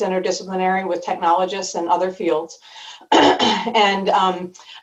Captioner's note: clearing throat